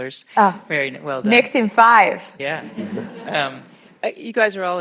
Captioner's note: laughter